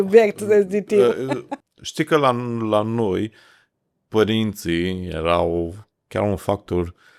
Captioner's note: laughter